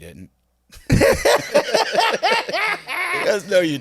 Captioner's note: both laughing